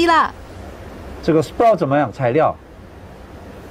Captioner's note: Mandarin